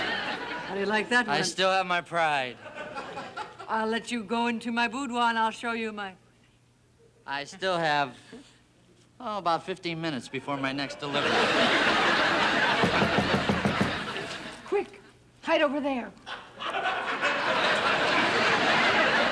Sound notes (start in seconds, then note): 10.3 audience laughing; 12.7 knocking on door; 16.3 audience laughing